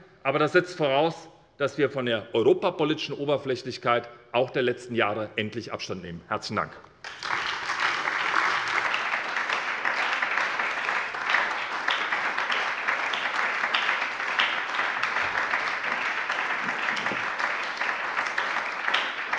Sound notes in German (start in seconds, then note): 7.0 Anhaltender Beifall bei der SPD